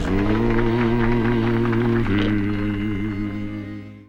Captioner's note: audience applauding